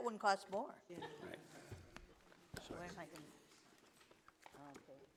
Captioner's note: women laughing